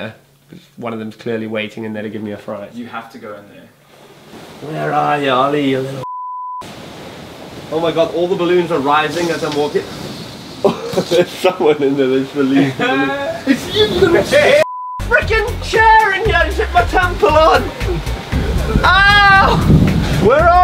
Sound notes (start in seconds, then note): 10.6 laughs; 12.1 mumbles